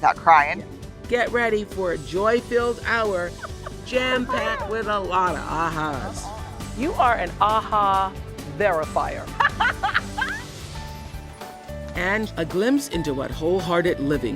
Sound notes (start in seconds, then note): 9.3 laughs